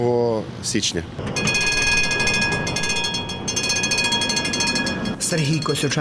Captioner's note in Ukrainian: сигнал трамвая